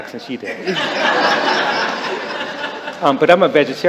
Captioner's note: laughter